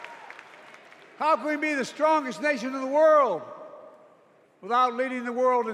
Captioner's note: cheers and applause